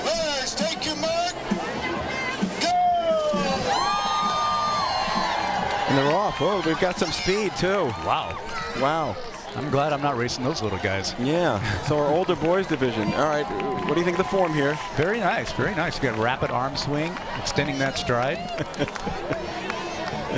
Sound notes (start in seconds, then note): 9.9 applause